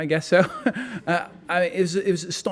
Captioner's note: laughing